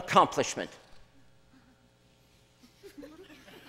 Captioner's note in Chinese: 笑聲